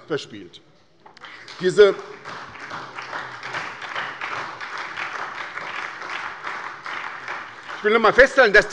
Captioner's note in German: Beifall bei der SPD